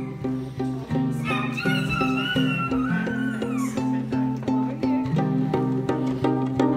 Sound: screaming

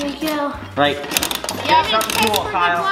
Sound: clicks

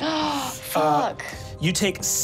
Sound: gasps

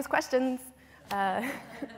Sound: laughter

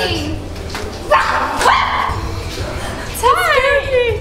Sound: boy makes scary sound; woman screams

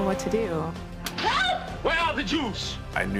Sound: slap

